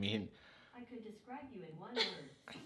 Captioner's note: woman laughs